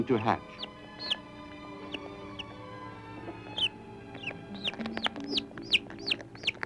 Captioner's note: chirping